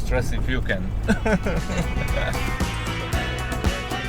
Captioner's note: laughter